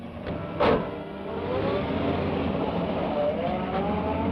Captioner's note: engine rumbles